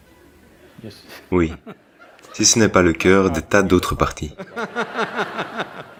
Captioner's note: laughs